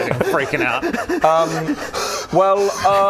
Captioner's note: hyperventilating and freaking out